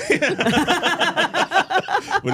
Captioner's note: all laughing